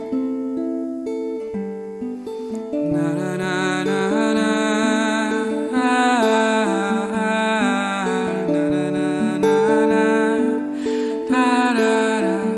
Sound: humming

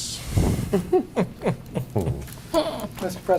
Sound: laughter

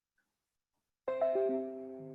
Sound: chime

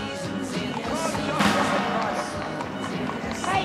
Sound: horses walking

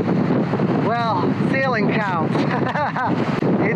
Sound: laughs

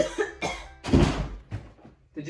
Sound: cough; door slams open

